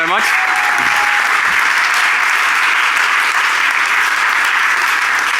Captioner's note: applause